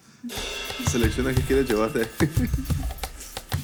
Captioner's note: laughs